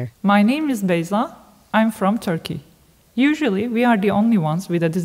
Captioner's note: none